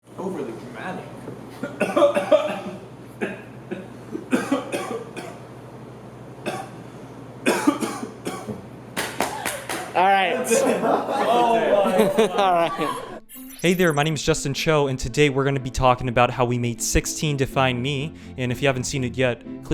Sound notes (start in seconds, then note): 3.1 coughing; 7.4 coughing worsens; 8.8 abrupt back taps